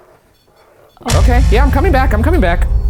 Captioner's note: device beeping